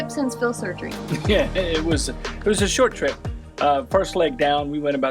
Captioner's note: laughs